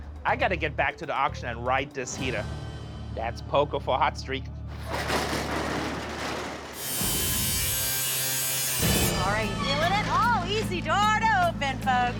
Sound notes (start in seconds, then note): 6.0 buzzing